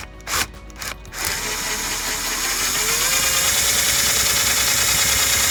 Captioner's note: machine drilling